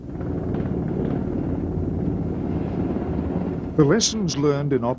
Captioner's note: helicopters whirring